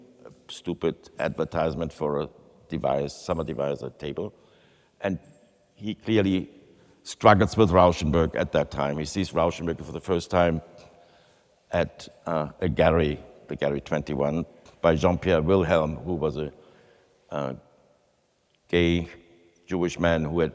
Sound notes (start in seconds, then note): none